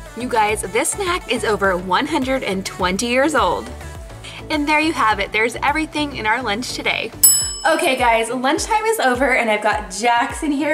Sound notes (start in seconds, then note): 7.2 bell dinging